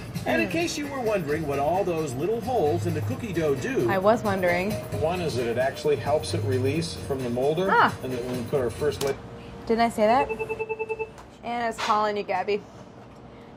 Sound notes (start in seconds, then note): 10.2 phone rings